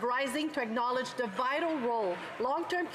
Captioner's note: some Applause